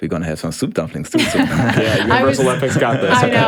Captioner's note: all laugh